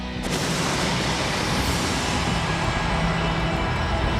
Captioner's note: thunder rumbles